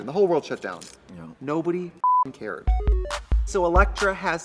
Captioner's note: beep